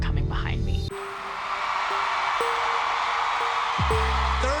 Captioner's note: crowd cheering